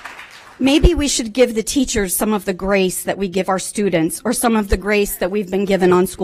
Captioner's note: applause